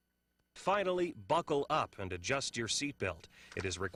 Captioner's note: voiceover